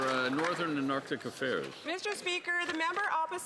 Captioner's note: some Applause